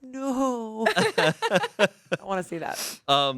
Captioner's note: everyone laughs